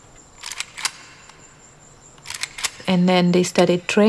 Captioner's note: sound of a gun being loaded